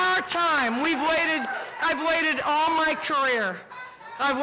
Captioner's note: cheering